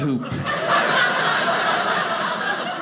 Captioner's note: audience laughing